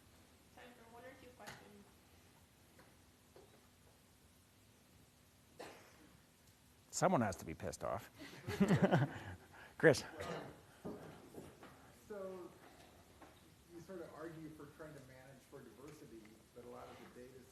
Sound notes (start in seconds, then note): 8.3 laugh